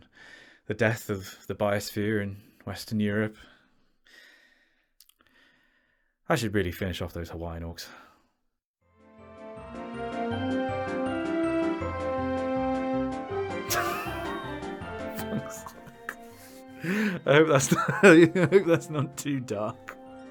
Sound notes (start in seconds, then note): 13.7 giggling